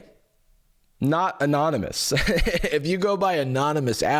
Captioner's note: laughs